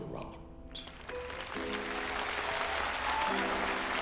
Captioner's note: audience applauding